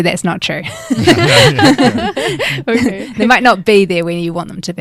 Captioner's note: laughing